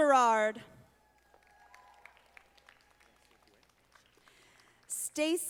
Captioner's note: audience applauding